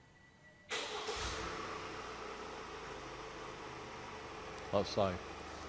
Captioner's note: van engine starts